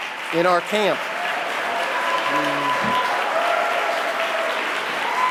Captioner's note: audience applauding